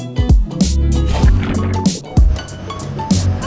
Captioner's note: splash